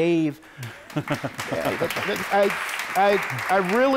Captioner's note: applause